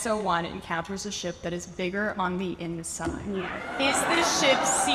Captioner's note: audience cheers